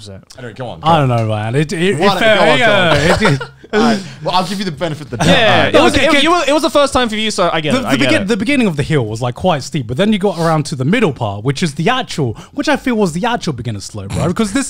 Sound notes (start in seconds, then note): 2.7 laughing